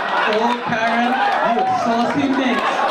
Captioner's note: audience laugh